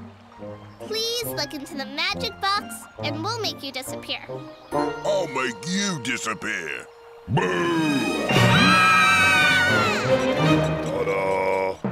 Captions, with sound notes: Please look into the magic box and we'll make you disappear. I'll make you disappear! Boo! [screaming] Ta da!